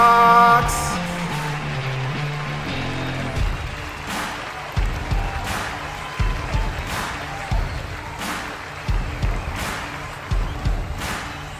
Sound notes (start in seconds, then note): 1.7 heavy guitar music; 3.5 applause and cheering